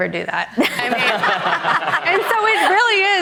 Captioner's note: audience laughing